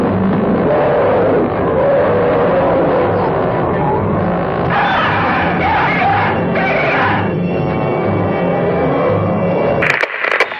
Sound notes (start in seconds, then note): 5.2 screaming